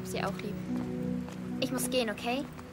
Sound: in German

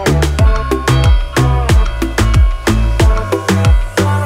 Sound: bells ringing

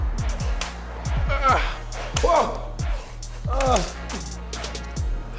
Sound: grunts and cries out

